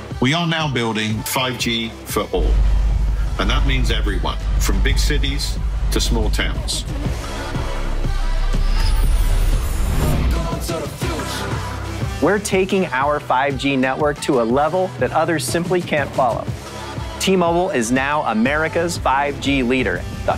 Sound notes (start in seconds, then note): 2.6 waves rumbling